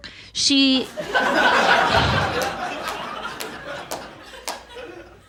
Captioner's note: audience laughs